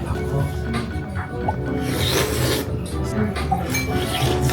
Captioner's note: slurping up the noodles the vocal coach left behind too